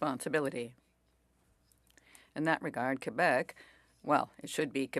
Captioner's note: speaking French